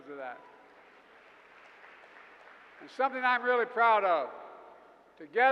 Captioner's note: applause